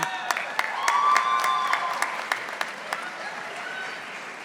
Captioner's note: audience applauding